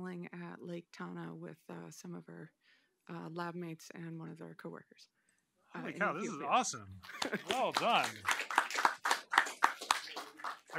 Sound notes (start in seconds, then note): 7.0 applause